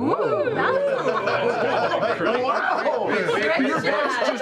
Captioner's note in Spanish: risas